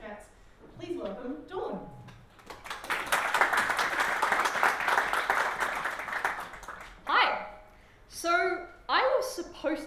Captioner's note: applause